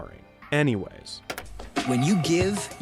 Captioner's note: computer keyboard taps